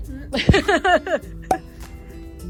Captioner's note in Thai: หัวเราะ